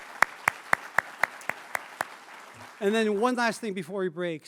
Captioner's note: applause